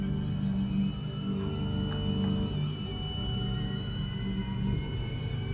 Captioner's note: thunder rumbles